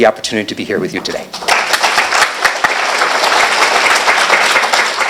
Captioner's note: applause